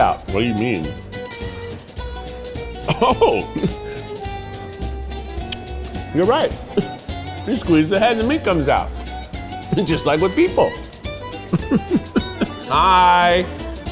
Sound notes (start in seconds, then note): 2.8 chuckles; 11.1 laughs